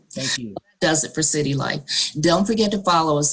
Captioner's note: audio glitches